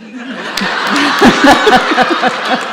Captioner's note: audience and Katie laugh